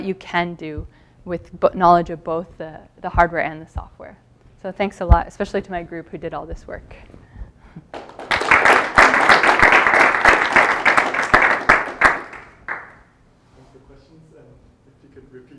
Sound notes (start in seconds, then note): 7.9 applause